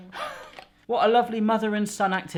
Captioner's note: laughing